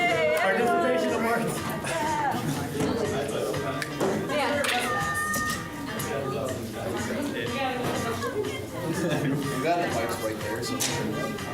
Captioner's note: muffled conversation